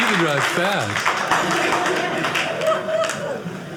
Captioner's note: audience laughing